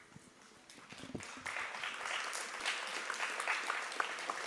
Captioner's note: applause